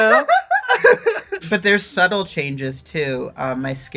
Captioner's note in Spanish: risas